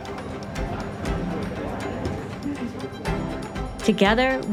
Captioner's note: crowd chattering softly; bright music continues